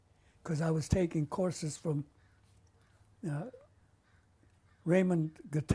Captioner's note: pauses for 3 seconds